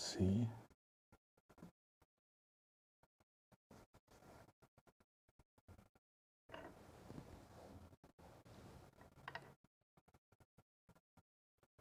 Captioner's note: silence